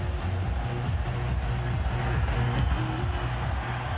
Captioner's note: crowd cheering